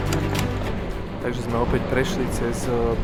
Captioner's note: upbeat music; horn honking